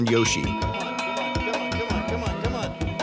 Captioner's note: bell ringing